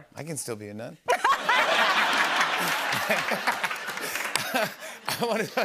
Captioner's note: laughter